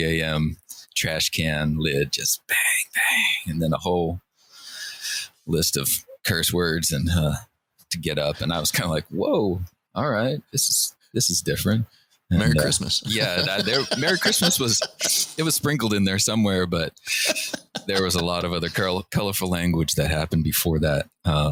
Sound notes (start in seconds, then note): 17.0 laughter